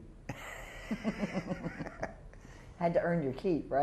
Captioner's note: laughter